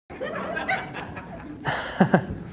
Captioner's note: awkward audience laughter